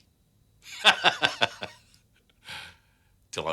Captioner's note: laughs